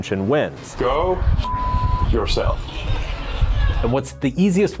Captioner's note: beep